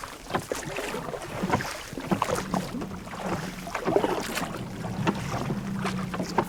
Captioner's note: boat engine starts